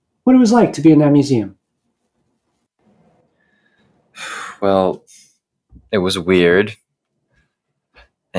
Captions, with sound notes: what it was like to be in that museum. [exhales] Well... It was weird.